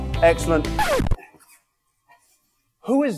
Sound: record scratch

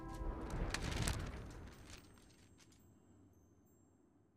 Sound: paper flapping in the wind

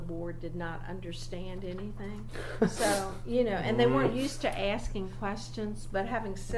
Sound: laughs

